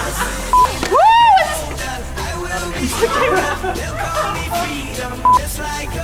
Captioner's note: Gelächter